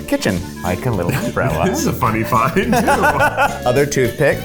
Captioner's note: laughs